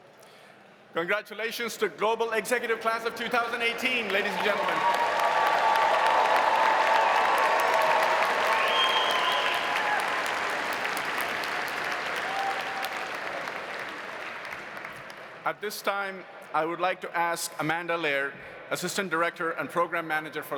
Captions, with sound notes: - Congratulations to Global Executive class of 2018 ladies and gentlemen. (audience applauding) (audience cheering) At this time I would like to ask Amanda Laird, assistant director and program manager